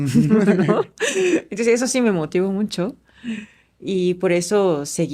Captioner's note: laughs